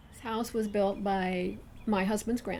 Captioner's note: voiceover